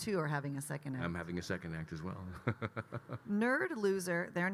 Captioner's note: laughs